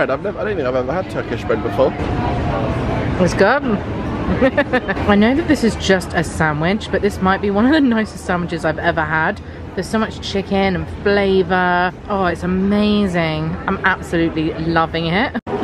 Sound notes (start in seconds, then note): 4.2 laughing